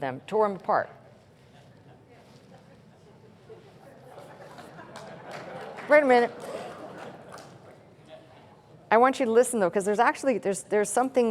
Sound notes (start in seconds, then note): 4.6 chuckling and applause